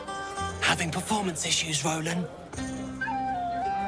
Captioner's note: whispers